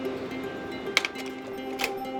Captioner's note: projector clicks